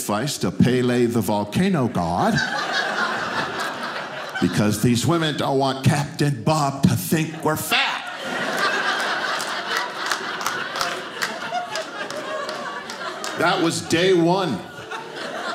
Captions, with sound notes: to Palé the volcano god, (audience laughing) because these women don't want captain Bob to think we're fat. (audience laughing) That was day one.